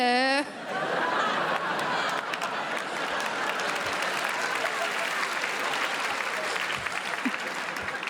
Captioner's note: crowd laughs